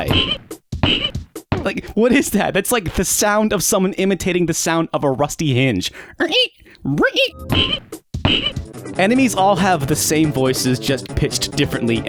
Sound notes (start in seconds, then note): 0.8 short, pathetic squeals; 7.5 short, pathetic squeals